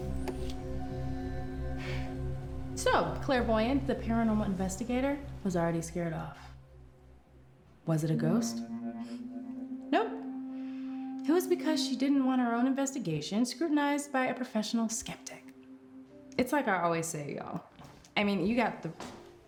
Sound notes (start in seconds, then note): 1.7 Claire sighs